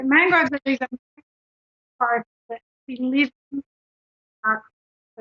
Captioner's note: choppy audio interrupts speaker